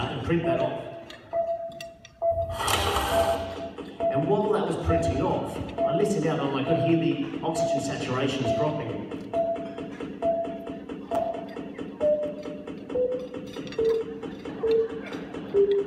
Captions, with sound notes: print that off [printer sound] And while that was printing off I listened out and I could hear the oxygen saturations dropping [lowering ECG beep]